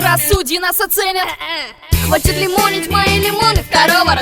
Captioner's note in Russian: Кхе кхе